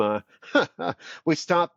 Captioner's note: laughs